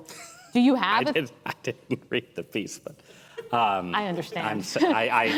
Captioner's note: laughs